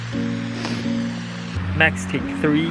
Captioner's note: sniffs deeply